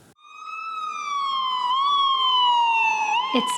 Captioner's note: siren wailing